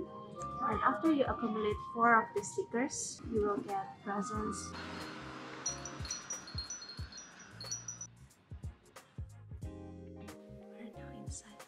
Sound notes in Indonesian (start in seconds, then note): 5.6 Suara Lonceng Kecil